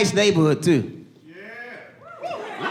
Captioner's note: audience laughing